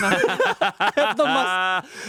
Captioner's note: everyone laughs